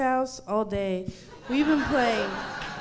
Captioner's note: audience laughing